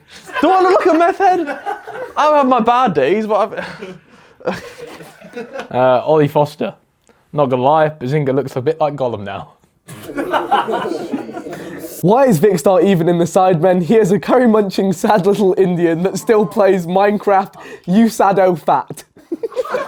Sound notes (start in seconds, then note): 0.1 audience laughs; 9.9 audience laughs